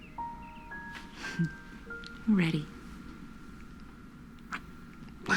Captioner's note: chuckles